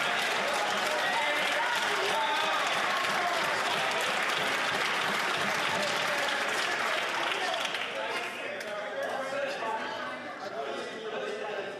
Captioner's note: some Applause